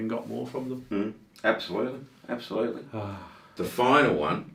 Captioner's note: man sighing